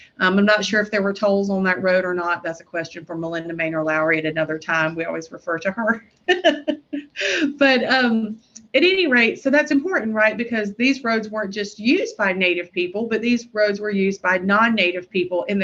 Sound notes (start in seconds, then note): 6.3 laughs